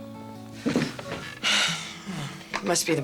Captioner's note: sighs